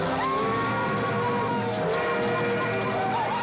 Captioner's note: train whistling; Comanches whooping and hollering